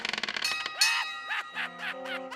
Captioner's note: bell clangs